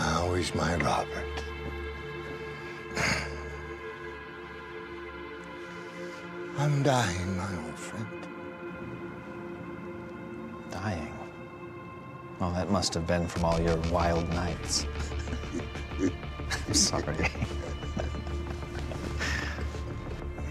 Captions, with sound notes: - How is my Robert? I’m dying, my old friend. - Dying? Well, that must have been from all your wild nights. (laughter) I’m sorry.